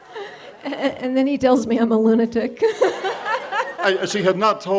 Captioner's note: laughs